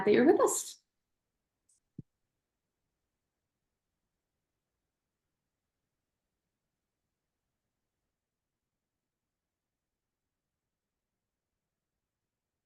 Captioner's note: silence